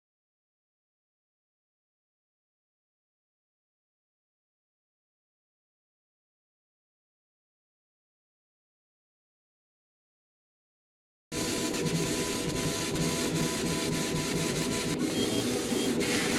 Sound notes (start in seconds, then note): 11.3 machine whirring